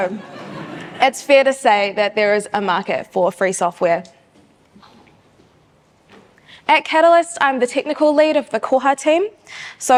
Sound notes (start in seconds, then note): 0.1 audience chuckles